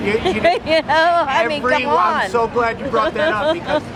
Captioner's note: laughing